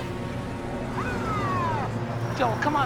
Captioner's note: siren wailing